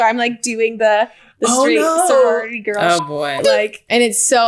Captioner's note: beep